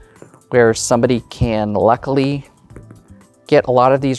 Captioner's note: dice rolling